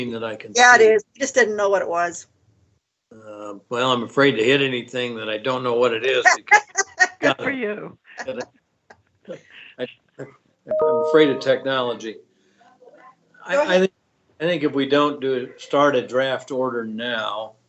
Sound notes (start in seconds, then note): 7.0 laughing